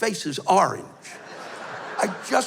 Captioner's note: laughter